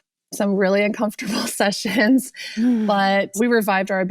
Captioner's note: laughs